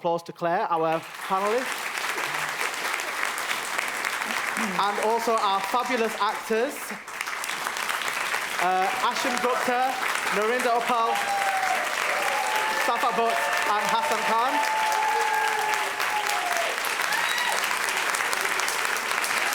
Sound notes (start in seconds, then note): 4.4 applause; 11.5 applause; 18.9 applause